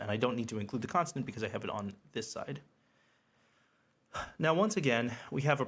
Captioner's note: exhales